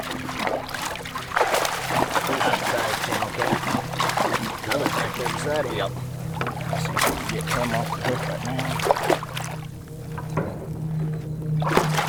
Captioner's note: water splashing - indecipherable